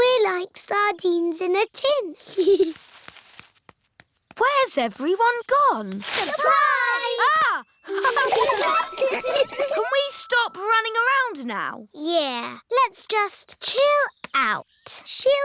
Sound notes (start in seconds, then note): 7.2 gasps; 7.8 all laughing